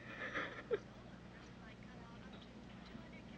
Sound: Anne crying

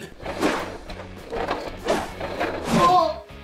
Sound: toy Car Wheels Rolling

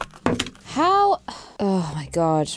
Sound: clunk

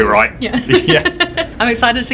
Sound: laughing

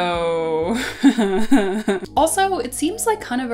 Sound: nervous laughter

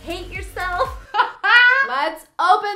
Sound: laughing

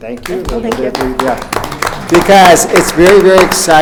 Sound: group applauds

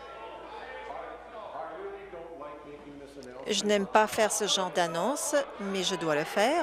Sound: chorus of "No"

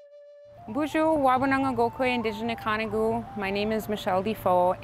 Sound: foreign language

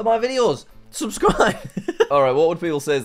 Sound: laughs

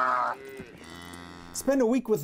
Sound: cows bawling

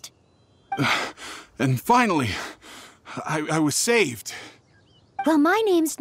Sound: catches breath

